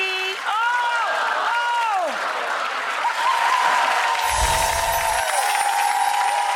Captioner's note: audience applauds and screams